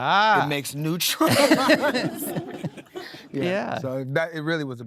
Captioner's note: everybody laughing